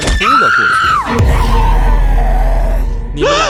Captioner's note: screams